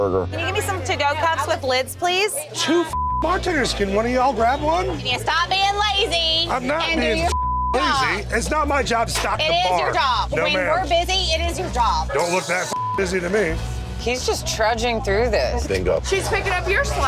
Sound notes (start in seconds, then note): 2.9 beeping; 7.1 beeping; 12.7 beeping